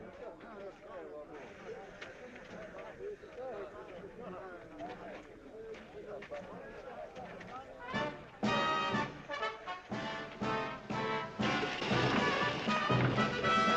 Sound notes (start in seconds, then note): 1.3 crowd chattering; 8.0 band playing